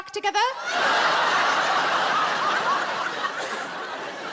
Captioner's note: audience laughs